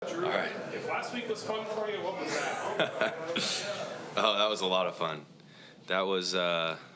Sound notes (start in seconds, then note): 2.2 Drew laughs